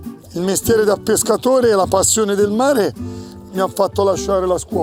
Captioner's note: speaking Italian